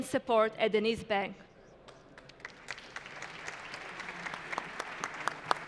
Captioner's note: applause